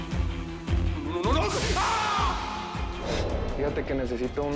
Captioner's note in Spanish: Quejidos